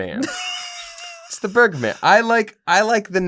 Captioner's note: laughter